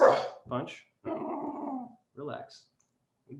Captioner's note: Punch growls